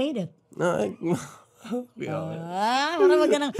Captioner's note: chuckles